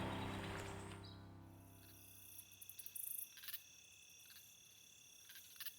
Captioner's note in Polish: dźwięki nocy, cykanie świerszczy, rechot żab